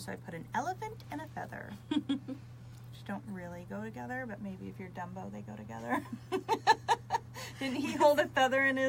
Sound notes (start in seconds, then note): 1.7 laughs; 5.8 laughs